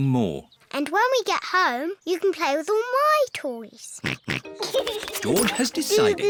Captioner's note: snorts and giggles